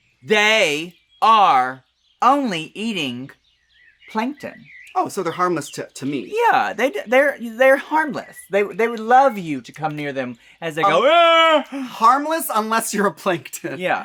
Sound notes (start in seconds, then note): 10.8 Trinity The Tuck vocalises